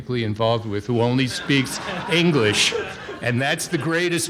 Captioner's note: audience laughing